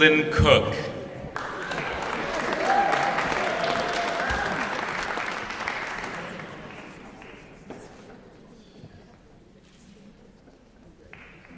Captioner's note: applause